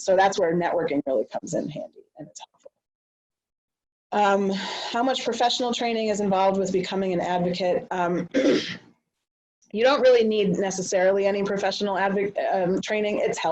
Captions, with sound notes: SO THAT'S WHERE NETWORKING REALLY COMES IN HANDY. UM...HOW MUCH PROFESSIONAL TRAINING IS INVOLVED WITH BECOMING AN ADVOCATE? [CLEARS THROAT] YOU DON'T REALLY NEED NECESSARILY ANY PROFESSIONAL TRAINING.